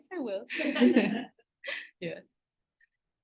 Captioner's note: laughter